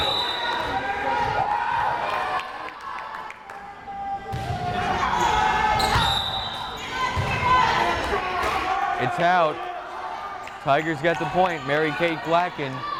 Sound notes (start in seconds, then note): 0.0 whistle blares; 1.9 crowd cheering; 5.8 whistle blares